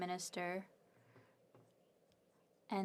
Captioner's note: speaking French